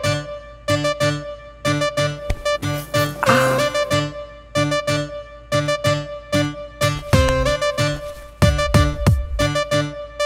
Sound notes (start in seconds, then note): 2.8 Grunts